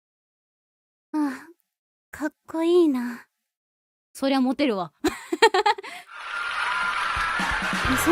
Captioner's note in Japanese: 笑い